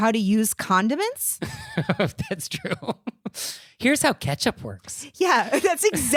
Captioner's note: giggling